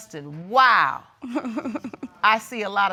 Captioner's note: chuckles